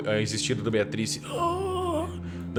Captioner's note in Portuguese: grunhidos